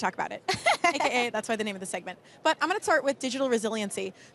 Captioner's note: laughter